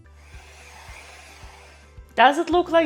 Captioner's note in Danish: føntørrer hvirvlende